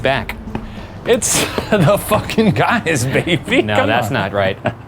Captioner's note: laughing